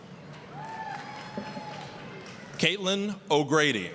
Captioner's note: applause, cheering